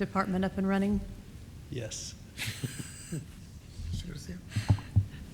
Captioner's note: both chuckling